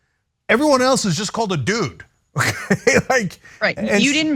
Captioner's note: laugh